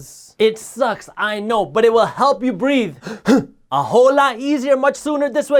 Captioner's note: quick breath